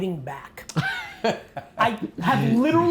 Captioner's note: laughing